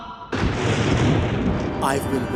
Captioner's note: thunder cracks